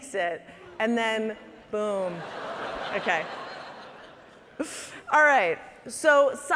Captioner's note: audience laughing